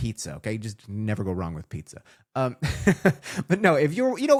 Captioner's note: laughs